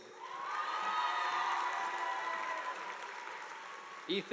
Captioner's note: audience applauding